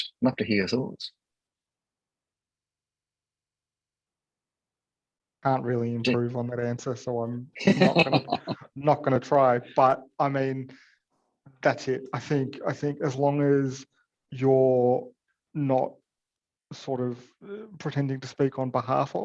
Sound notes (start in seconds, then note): 7.6 laughter